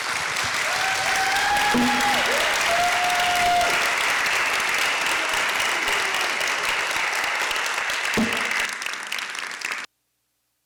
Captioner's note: audience claps and cheers